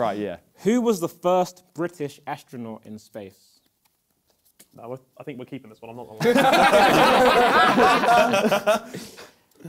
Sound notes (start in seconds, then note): 6.2 laughter